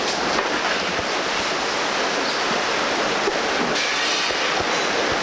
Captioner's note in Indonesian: suara air yang mengalir deras